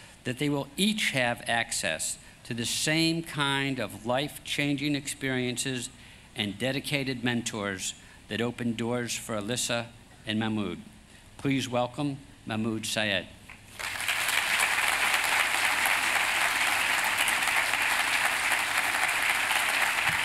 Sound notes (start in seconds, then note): 13.6 applause